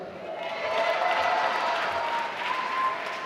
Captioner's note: applause